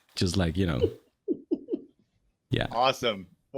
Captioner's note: laughing